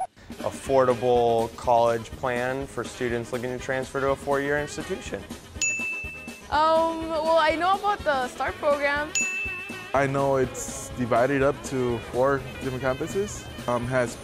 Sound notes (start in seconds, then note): 5.6 ding sound effect; 9.1 ding sound effect